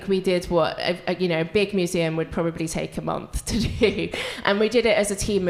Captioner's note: laughs